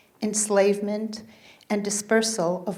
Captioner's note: none